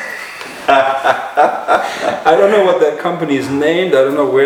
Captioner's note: laughter